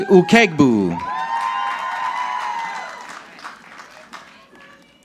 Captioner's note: audience clapping